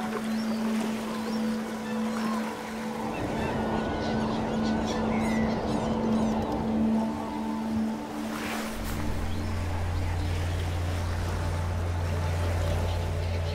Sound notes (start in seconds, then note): 3.6 waves crashing and birds singing